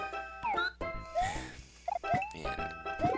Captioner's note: sigh